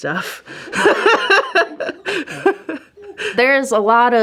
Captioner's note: laughing